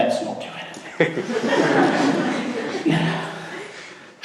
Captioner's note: laughing